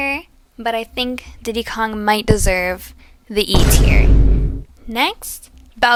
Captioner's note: boom